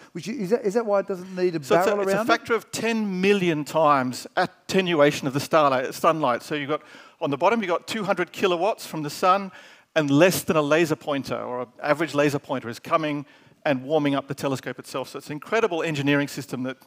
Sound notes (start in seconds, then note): none